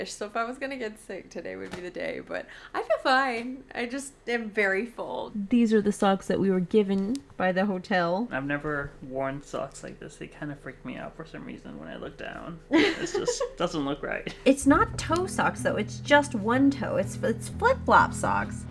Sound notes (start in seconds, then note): 12.7 laughs